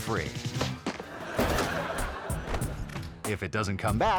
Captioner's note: audience laughing; upbeat music